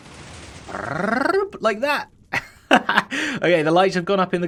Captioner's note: chuckles